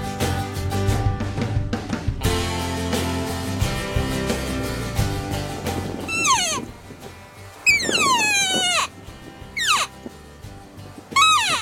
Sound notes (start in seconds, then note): 5.9 cow call